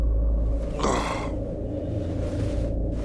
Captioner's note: Yawning